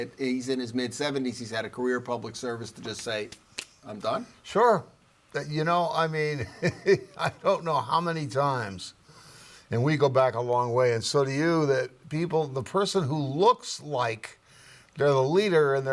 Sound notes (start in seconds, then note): 6.4 chuckling